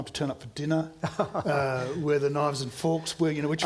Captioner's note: laughing